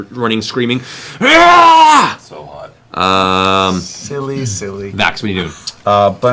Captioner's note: yells